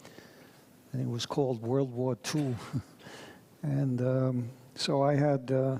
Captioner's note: chuckles